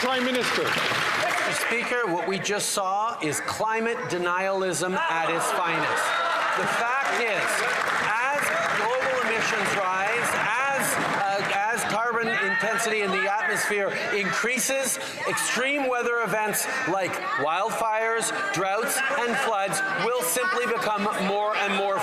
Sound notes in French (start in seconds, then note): 5.2 voix de l'interprète